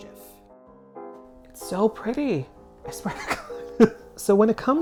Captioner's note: dies of laughter